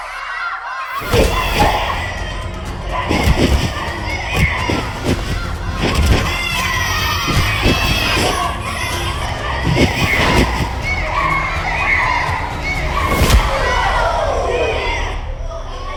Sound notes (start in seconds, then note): 2.0 children shouting; 2.0 fighters grunting; 10.6 children continue shouting; 14.8 children groaning